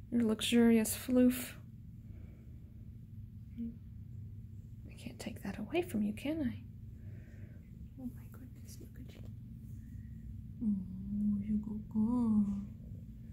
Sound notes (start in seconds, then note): 7.7 whispering